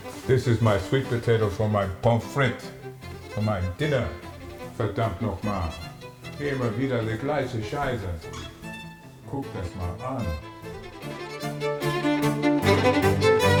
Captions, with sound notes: this is my sweet potato for my Pomme Frit for my dinner [exasperated German]